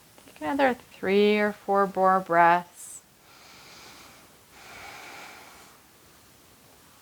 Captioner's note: inhaling